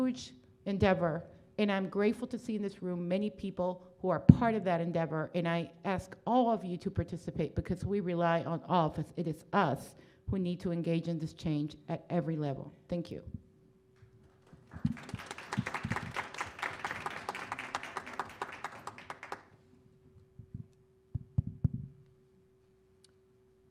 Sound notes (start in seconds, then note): 14.3 applause